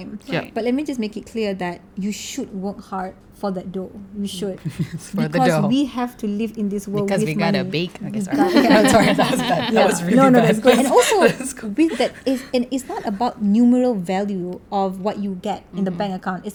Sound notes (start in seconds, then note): 11.2 laugh